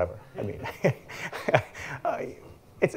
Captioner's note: laughs